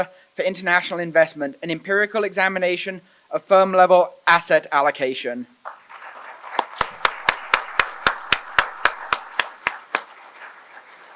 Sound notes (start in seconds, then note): 5.6 applause